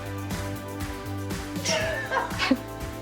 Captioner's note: upbeat music playing; laughing